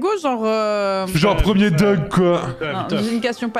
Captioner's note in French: voix de hipster